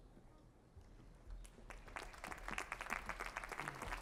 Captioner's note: applause